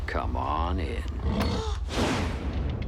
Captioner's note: gasps